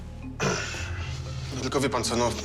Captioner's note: clears throat